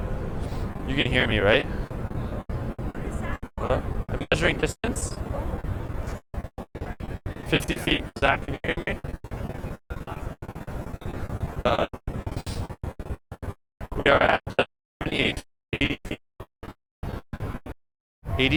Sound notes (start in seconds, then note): 8.0 crackles; 16.9 crackles